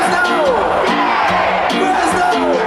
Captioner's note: crowd